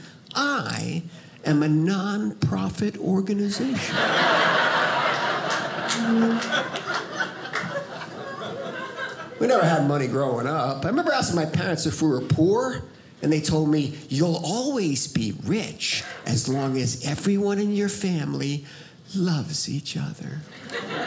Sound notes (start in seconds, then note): 3.6 audience laughing; 20.5 audience laughing